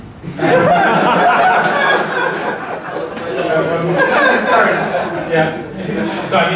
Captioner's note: laughing